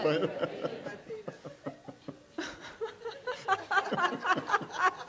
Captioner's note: couple and audience laughing